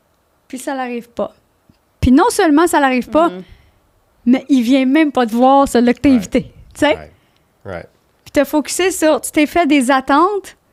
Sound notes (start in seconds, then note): 0.5 in french; 8.2 in french